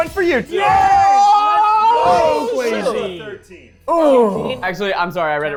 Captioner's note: people cheering